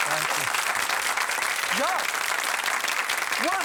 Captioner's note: applause